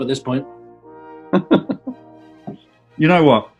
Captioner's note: chuckling